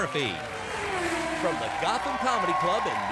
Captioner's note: car whirring